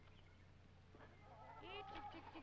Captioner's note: chickens clucking